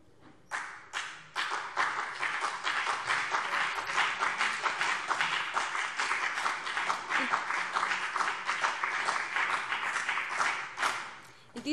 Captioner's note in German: Beifall BÜNDNIS 90/DIE GRÜNEN und vereinzelt CDU